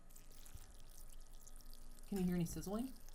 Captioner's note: liquid pouring